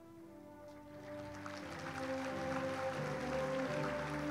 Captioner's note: audience applauds